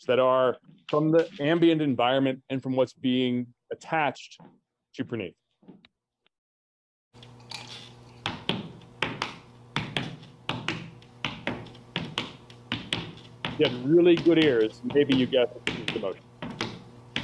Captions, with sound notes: that are from the ambient environment, and from what's being attached to Praneeth. (footsteps tapping) If you have really good ears, maybe you got the motion.